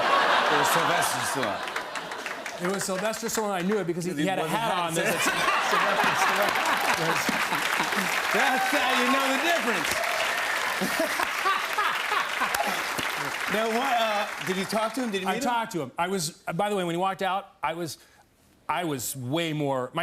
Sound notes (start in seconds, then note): 0.0 laughter; 6.8 laughter and applause; 10.1 cheers and applause